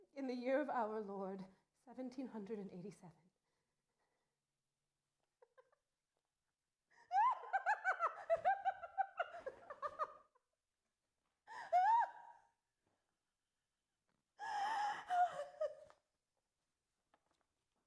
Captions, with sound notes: in the year of our Lord 1787." (laughs)